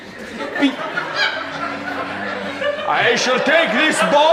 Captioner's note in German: Schiebedach surren